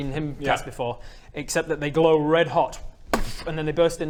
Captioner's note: boomf